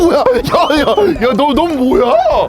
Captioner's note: laughing like crazy